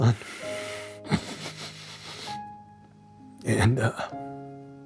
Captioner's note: chokes up